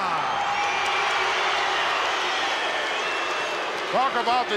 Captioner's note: crowd cheers and boos